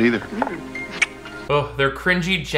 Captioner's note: lips smacking